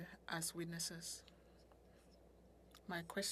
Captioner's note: speaking french